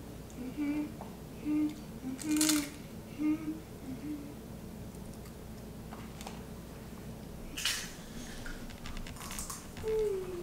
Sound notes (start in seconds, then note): 2.3 crunching